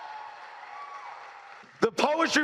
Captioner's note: cheers